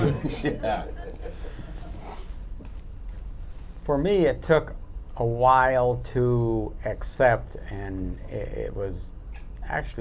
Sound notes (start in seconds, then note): 1.8 laughter